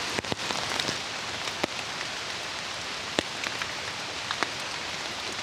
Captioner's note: water splashing